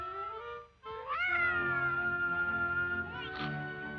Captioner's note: baby crying